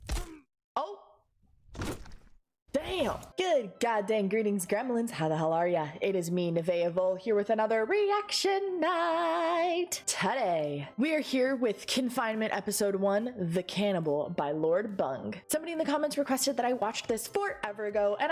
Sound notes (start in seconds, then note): 0.0 bone crunching punch; 1.7 firm, but squelchy thud